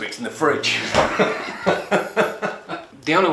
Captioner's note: laughs